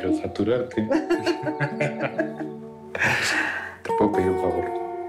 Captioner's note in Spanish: Risas